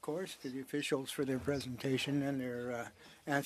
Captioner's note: speaking French